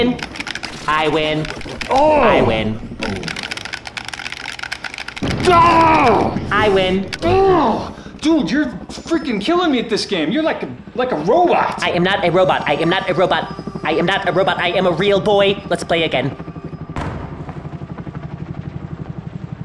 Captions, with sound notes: I win. I win. I win. (controller clicks) (angry grunts) - I win. - (groans) Dude, you're freaking killing me at this game. You're like--like a robot. - I am not a robot. I am not a robot. I am not a robot. I am a real boy, let's play again.